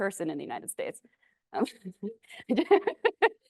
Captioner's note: laughs